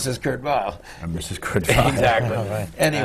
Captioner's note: laughs